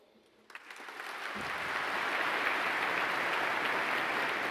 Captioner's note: audience applauding